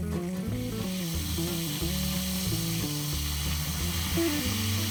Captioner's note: scallopini sizzling